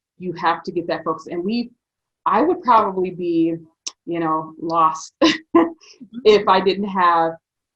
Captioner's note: laughs